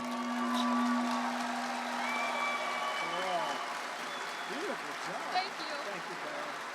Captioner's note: applause